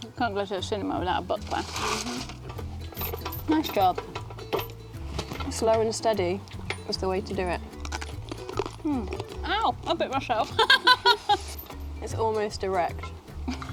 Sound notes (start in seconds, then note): 7.7 crunching; 10.5 laughs